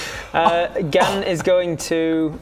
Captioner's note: scoffs